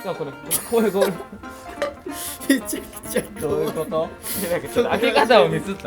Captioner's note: laughs